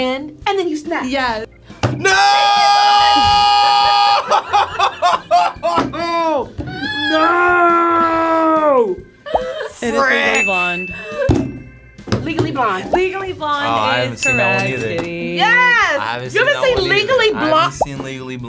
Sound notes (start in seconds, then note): 11.2 laughing; 14.2 bell dinging